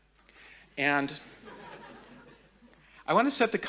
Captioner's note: audience laughing